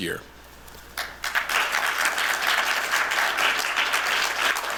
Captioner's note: applause